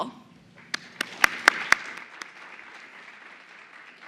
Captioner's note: applause